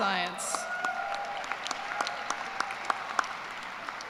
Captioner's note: cheers and applause